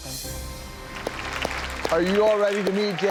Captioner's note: clapping